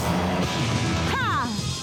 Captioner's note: yells